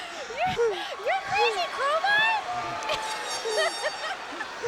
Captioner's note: laughs